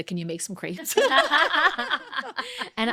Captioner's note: laughing